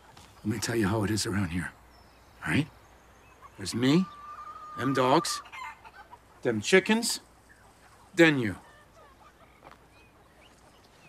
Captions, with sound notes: Let me tell you how it is around here. All right? There's me, them dogs [chicken clucks], them chickens, then you.